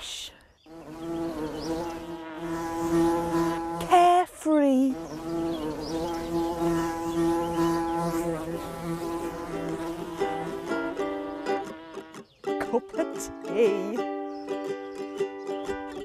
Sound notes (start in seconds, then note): 0.7 buzzing; 9.2 upbeat music